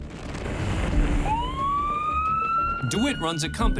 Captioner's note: police siren